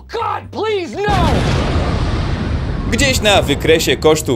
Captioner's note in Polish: boom!